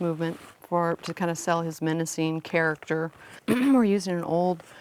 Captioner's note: clears throat